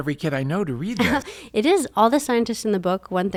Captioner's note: laughs